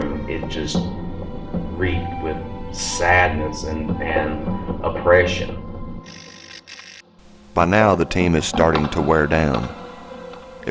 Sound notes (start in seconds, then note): 7.2 static fizzing